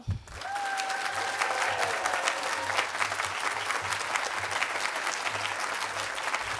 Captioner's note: audience applauding and cheering